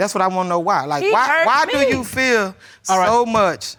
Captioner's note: none